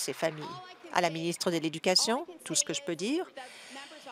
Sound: applause

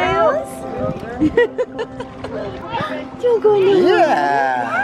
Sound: laughs

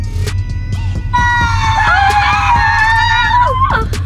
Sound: screaming

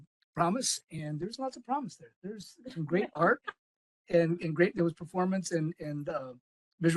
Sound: laugh

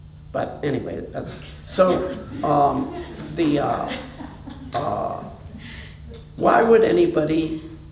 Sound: laughter

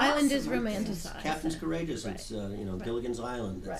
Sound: voiceover

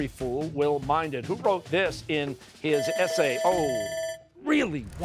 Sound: bell ringing

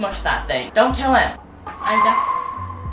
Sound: loud car noise + shook

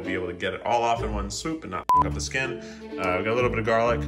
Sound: beep

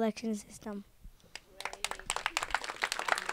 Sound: applause

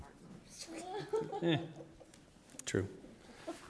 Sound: laughter

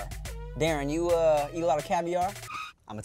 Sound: brakes screeching

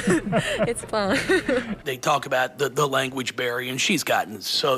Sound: laughter

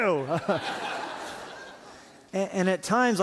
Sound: laughter

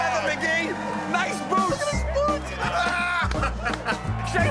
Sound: laughing

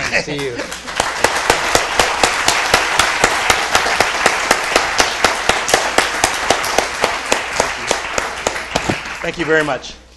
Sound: applause

